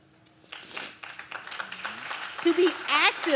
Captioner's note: audience claps